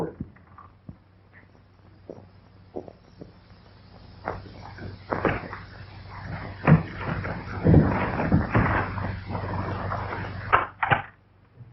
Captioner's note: pounding